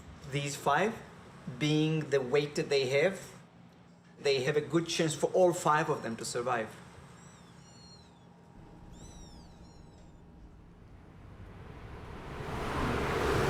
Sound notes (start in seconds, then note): 7.6 kitten mews